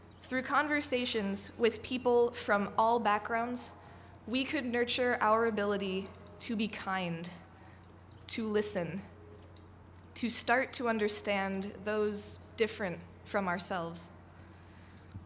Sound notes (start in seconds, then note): none